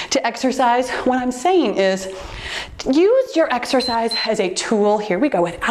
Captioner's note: timer beeps